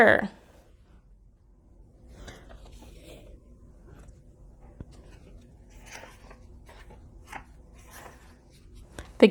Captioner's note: flipping pages